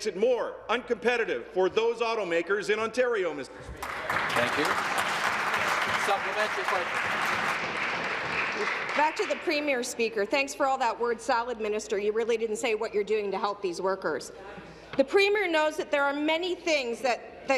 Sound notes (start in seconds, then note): 9.9 some Applause